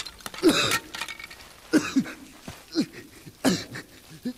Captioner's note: Coughs